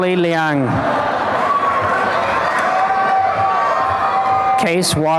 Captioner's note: applause and cheering